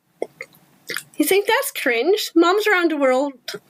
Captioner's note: sips water aggressively